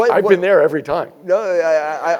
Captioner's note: laugh